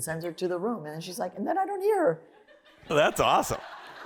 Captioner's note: laughter